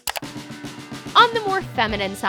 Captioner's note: clicking